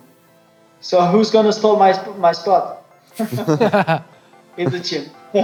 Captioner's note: all laughing